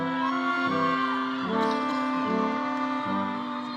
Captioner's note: audience cheering